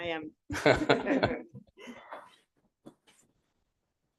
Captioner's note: laughter